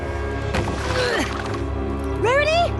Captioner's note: grunt